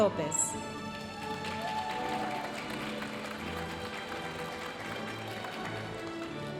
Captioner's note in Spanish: aplausos y vítores de la audiencia